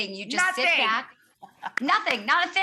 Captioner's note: claps